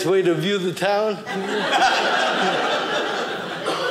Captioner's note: audience laughing